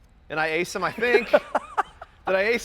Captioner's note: laughs